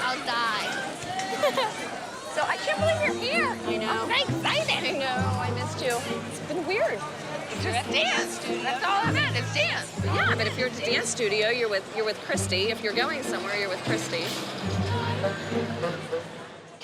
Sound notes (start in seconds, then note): 1.2 laughs